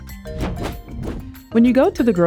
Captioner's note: transition whooshing